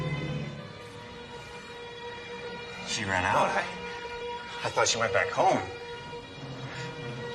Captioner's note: breaths